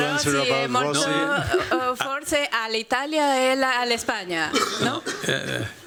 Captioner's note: speaking spanish